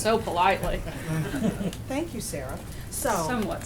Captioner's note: laughter